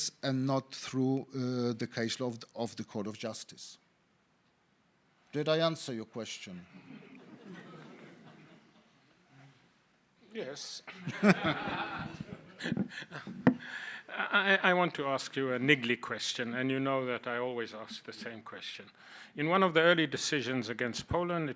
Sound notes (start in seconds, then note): 7.0 audience laughing; 10.9 laughing; 10.9 audience laughing